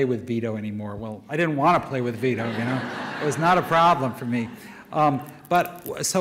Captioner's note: audience laughter